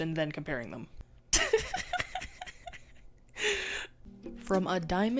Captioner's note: laughs